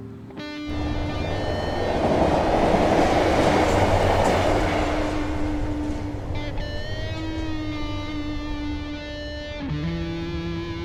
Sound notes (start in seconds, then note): 1.1 train roaring; 5.4 dramatic guitar music